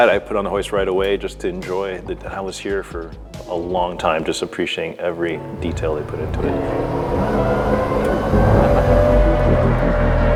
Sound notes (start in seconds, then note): 7.0 engine revving